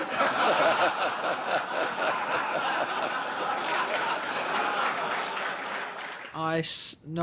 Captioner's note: laughter & then applause